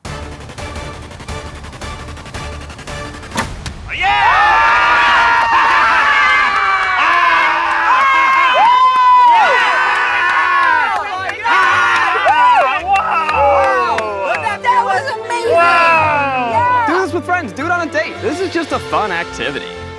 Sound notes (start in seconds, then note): 0.1 tense music; 5.7 cheering